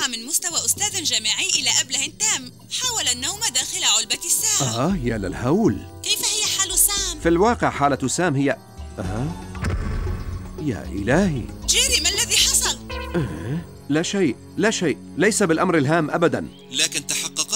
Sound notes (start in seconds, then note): 10.1 gasps